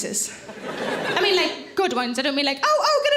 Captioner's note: audience laughs